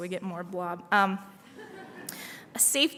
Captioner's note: laughter